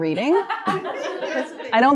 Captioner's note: laughter